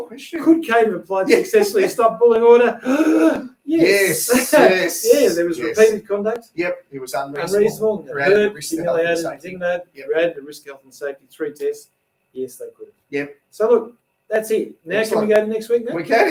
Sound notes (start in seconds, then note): 2.8 gasps